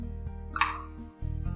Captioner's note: click